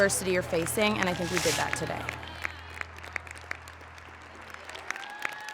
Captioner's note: audience clapping